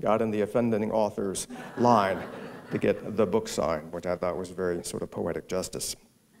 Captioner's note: laughter